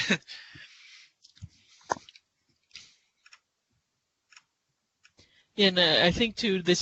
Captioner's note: laughter; silence